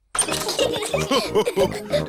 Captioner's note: all laugh